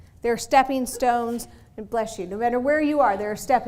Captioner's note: audience member sneezing